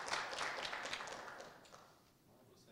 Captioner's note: applause